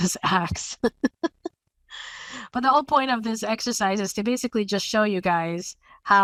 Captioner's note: laugh